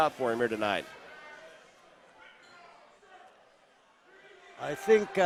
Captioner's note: crowd chatters